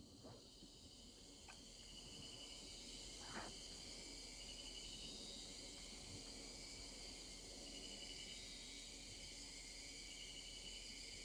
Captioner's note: insects chirping